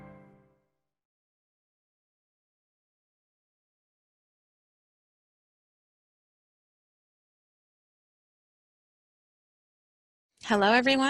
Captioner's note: silence